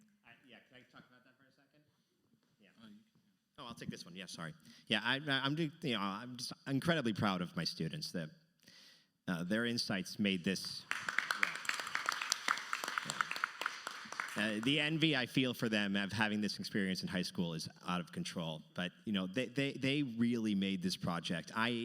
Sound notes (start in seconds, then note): 10.8 audience applauding